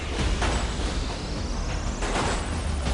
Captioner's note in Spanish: Disparos